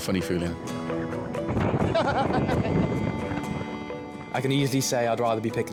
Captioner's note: rescuer laughing